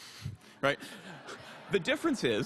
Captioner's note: laughter